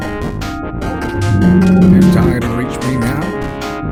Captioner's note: shark roars